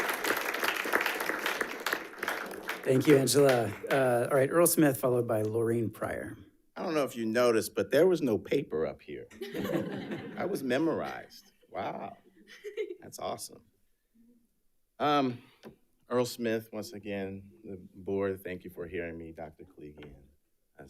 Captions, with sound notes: - Thank you, Angela. All right, Earl Smith, followed by Lorreen Pryor. - I don't know if you noticed, but there was no paper up here. (audience laughs) That was memorized. Wow, that's awesome. Earl Smith, once again, the board, thank you for hearing me, Dr. Koligian,